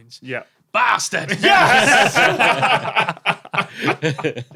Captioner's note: group laughing